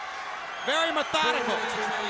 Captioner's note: crowd cheering